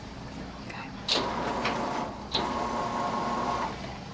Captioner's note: motor Whirring